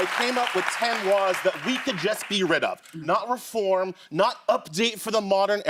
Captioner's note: cheers and applause